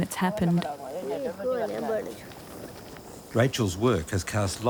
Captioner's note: speaking foreign language